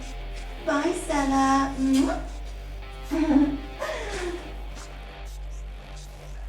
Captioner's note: giggles; makes kissing noise, giggles